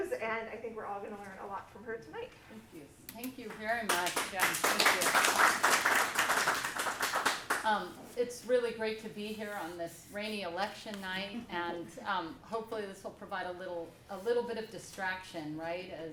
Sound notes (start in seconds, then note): 3.8 applause